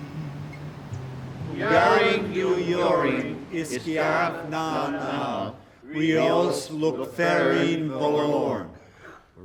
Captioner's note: speaking Gaelic